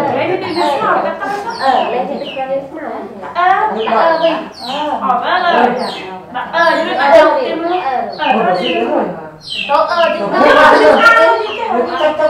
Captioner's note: chattering